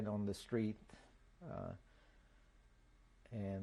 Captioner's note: pauses for 3 seconds